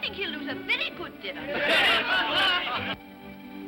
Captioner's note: guests clamor in agreement; upbeat music